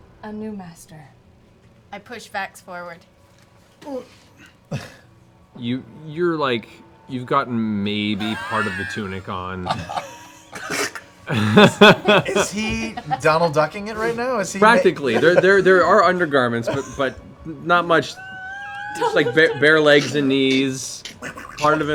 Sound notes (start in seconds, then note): 9.2 laughter